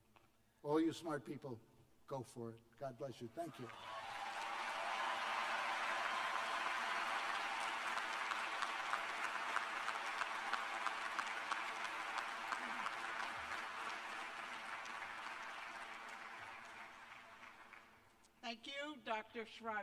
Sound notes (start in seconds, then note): 5.0 cheers and applause